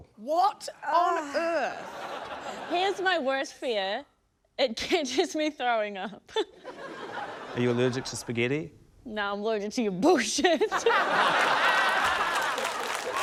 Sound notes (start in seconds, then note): 1.8 laughter; 6.2 laughter; 10.7 laughter, applause